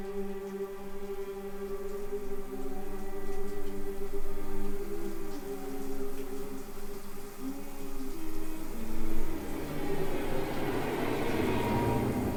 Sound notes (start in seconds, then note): 1.6 Claire humming; 1.6 water splashing